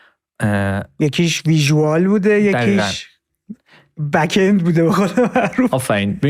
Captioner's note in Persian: خنده